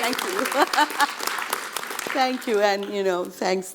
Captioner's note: audience applauding